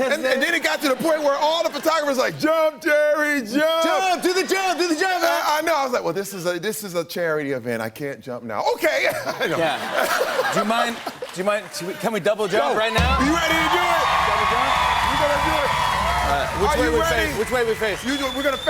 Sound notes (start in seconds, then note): 9.0 laughter; 12.4 cheers and applause